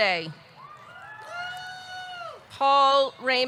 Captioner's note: audience cheering